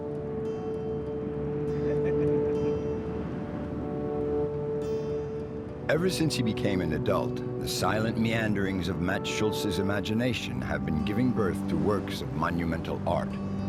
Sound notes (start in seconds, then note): 1.8 laughing